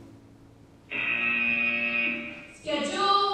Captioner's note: buzzer